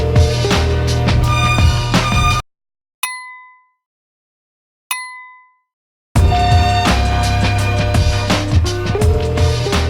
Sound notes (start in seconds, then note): 3.0 ding; 6.1 upbeat funky music